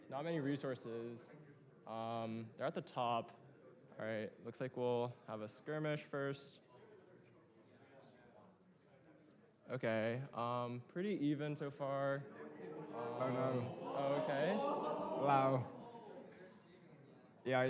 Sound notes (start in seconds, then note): 12.4 crowd gasps